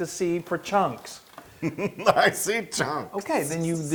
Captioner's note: laugh